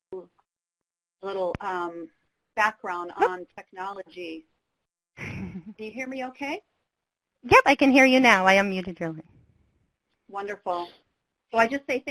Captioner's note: laughs